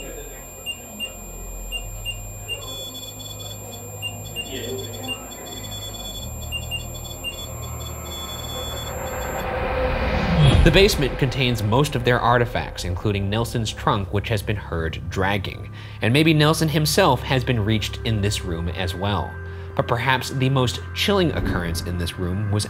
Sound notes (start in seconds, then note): 0.0 Rem-Pod beeping; 4.0 Rem-Pod whirring; 8.0 suspenseful eerie music